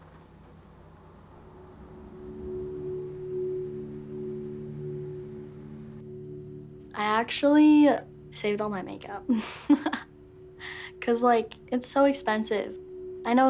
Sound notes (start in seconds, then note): 1.7 melancholic music; 9.3 laughs